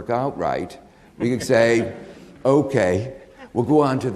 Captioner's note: audience laughing